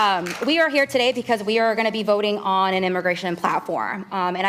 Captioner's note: applause